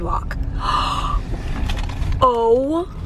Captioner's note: gasps